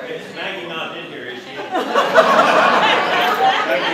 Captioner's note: laughter